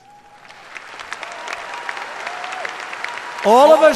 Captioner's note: applause